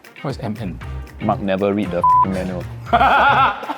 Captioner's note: beep